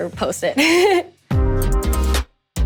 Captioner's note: upbeat music; chuckles